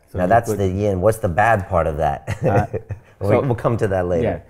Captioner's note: laughs